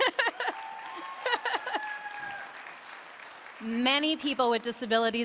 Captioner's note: applause